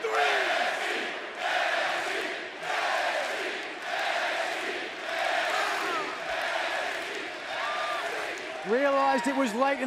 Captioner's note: crowd cheering